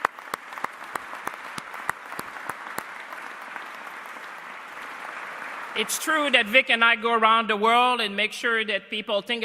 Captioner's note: applause